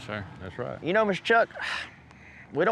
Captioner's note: sighs